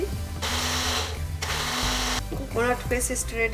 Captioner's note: blender blades grinding coconut